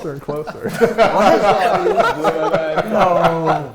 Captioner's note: laughter